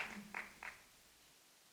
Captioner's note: applause